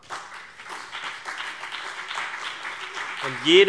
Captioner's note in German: Beifall CDU und BÜNDNIS 90/DIE GRÜNEN